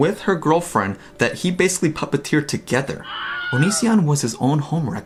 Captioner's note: scream fx sound